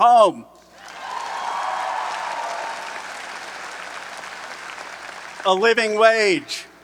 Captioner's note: audience cheering and applauding